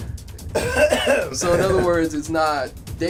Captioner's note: clears throat